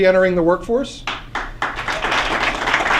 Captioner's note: applause